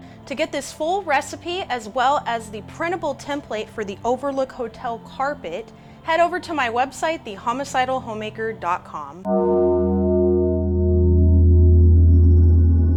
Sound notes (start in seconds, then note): 9.2 bell tolls